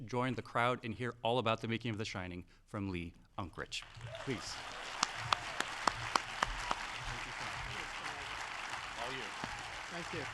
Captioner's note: audience applauding